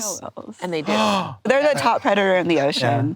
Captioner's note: gasps